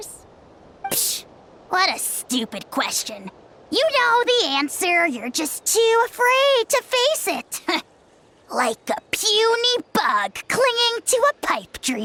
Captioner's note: scoff